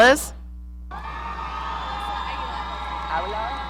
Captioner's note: audience cheering